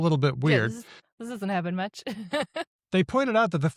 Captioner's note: laughs